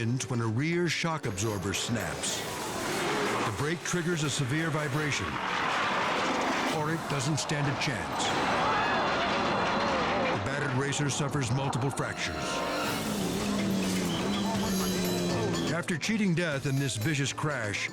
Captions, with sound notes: when a rear shock absorber snaps. The brake triggers a severe vibration. Orritt doesn't stand a chance. (spectators gasp) The battered racer suffers multiple fractures. (sportscaster chatters) (whistle shrills) After cheating death in this vicious crash,